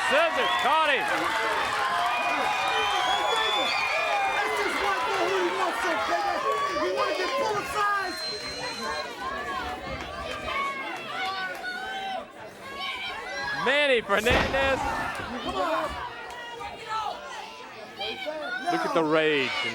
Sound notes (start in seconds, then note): 2.5 crowd cheering; 2.8 crowd chatter